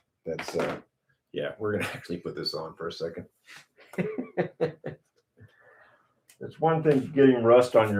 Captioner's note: laughter